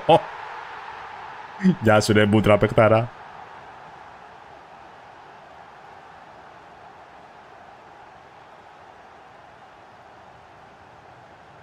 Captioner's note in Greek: χειροκρότημα